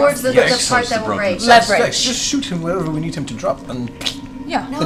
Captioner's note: pfft